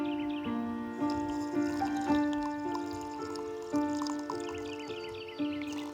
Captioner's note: slurping